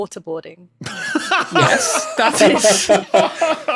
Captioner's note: others laughing